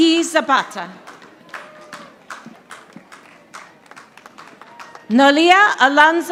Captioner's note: audience applauding